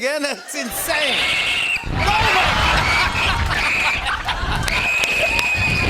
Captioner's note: both screaming